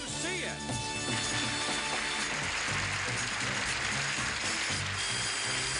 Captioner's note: applause; gameshow music